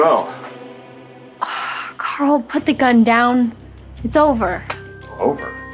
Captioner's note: sighs